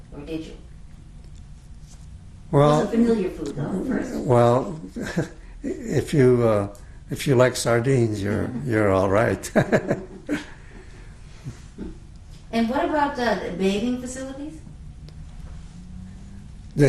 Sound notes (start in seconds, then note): 9.4 laughs